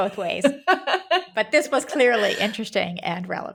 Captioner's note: laughing